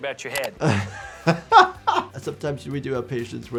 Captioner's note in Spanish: riendo